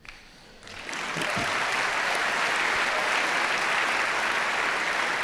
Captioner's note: audience applauding